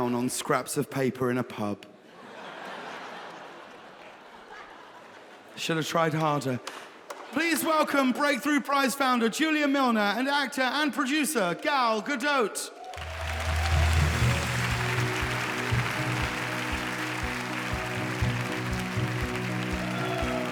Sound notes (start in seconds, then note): 2.1 audience laughing; 12.8 audience applauding